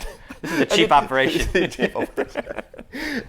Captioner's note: laughs